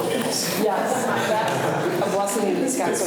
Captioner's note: students laugh